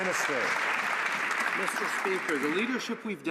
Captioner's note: some Applause